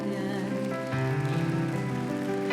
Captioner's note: cheering and applause